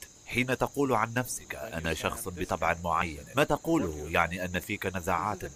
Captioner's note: laughs